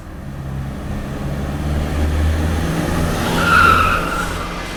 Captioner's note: engine rumbling; tires screeching